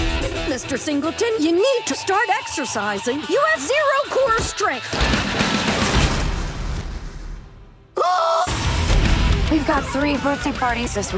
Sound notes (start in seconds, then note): 7.9 yells